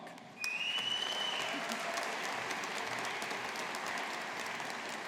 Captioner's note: audience applauding